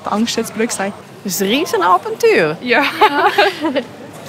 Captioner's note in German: Beide, lachend